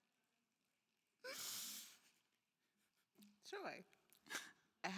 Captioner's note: crying and sniffling